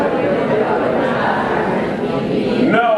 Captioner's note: laughter